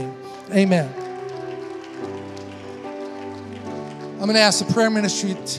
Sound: congregation applauding

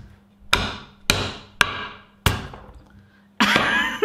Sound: loud banging; laughs

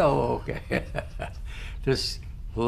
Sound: laughter

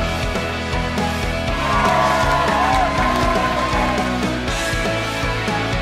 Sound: audience applauding

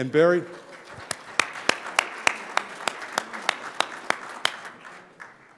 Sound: audience applauding

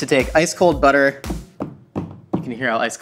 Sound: taps loudly

